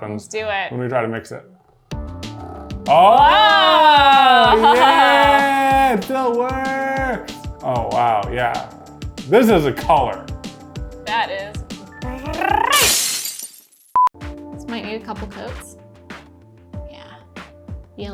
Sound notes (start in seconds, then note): 12.7 glass shattering; 14.0 beep